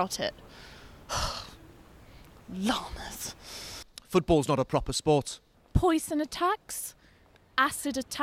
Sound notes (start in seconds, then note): 0.6 sighs